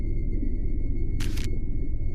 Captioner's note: paper scrunching sound